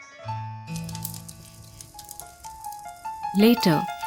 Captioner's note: gentle music; fire crackling